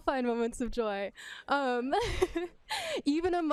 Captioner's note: laughs